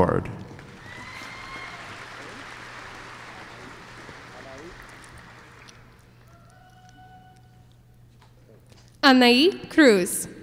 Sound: applause

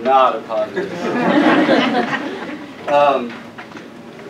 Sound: laugh

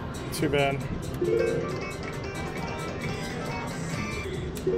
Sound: machine beeps

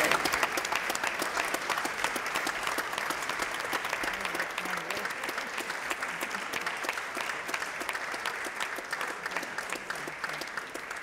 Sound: applause

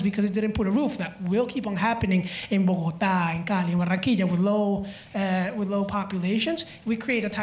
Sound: spanish

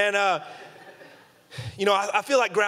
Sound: audience laughing

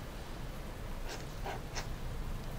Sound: pen scribbles

